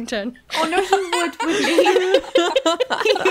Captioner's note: laughing